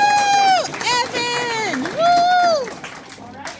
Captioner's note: audience cheers